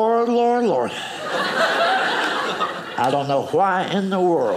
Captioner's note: audience laughing